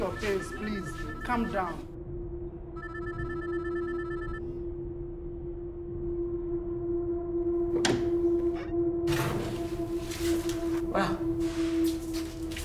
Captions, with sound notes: I share your pains please...calm down [PHONE RINGING] Well,